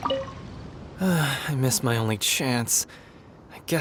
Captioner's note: sigh